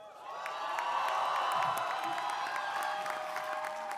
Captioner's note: crowd cheering